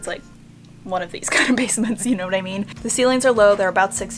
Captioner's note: laughs